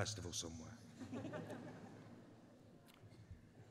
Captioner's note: laughter